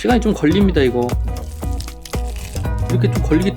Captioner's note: sound ㄷㄷ